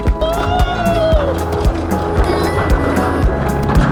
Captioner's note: howling